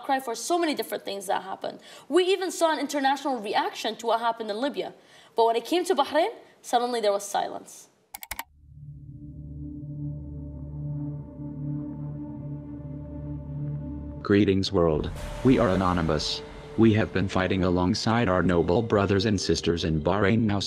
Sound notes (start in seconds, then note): 8.1 mouse clicking; 10.4 gentle electronic music